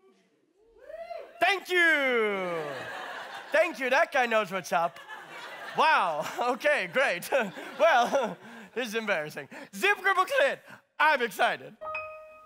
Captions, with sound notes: *Audience Member whoops* Thank you. Thank you! That guy knows what’s up. Wow, okay, great, huh, well, huh, this is embarrassing. Zip dible clip, I’m excited!